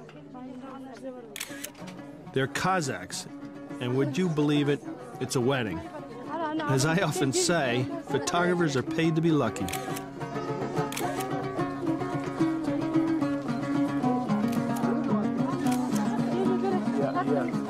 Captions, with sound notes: (speaking foreign language) They're Kazakhs and would you believe it? It's a wedding. As I often say, photographers are paid to be lucky. (camera flashes) (soft music) (camera flashes)